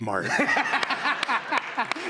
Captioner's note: laughter